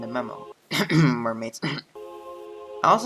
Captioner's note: cough